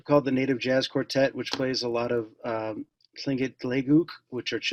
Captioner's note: speaking Tlingit